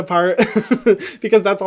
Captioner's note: laughing